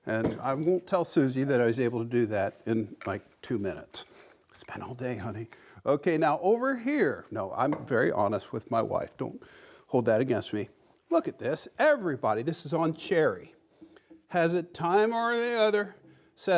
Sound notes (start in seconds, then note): 4.5 whispers